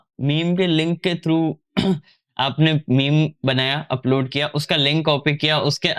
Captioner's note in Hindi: गला साफ़ करने की आवाज़